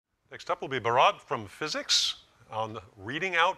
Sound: voiceover

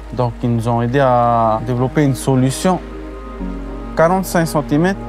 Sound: speaking foreign language

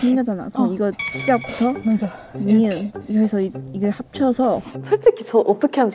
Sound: Korean

